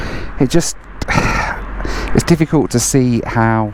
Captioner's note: sighs